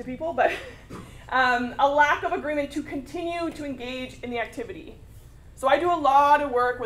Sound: laugh

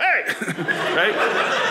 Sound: audience laughing

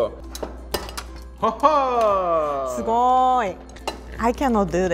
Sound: laughs

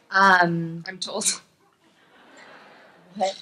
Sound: laughs

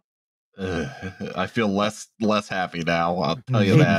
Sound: eeuuuhhh-uh; chuckles

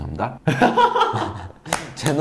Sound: haha

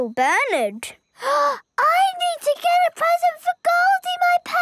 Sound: gasps

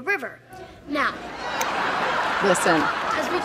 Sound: audience laughing; Hailee chuckles

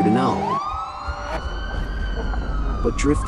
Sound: sirens echoes away; zoom!

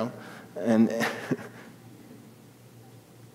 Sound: laughing

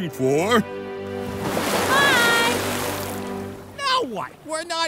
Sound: water splashing

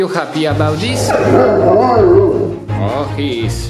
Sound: dogs bay

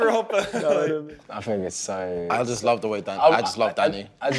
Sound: laughing

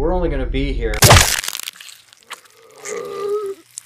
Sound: thwacking; groaning

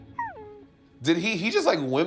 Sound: whimpering

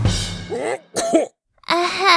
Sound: achoo

